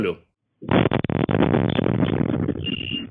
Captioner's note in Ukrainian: вибух